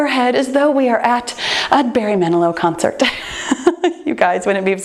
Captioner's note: laughs